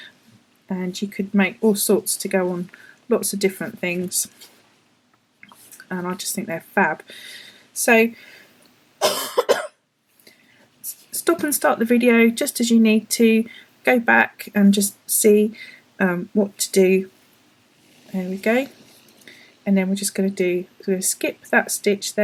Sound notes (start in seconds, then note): 9.0 coughs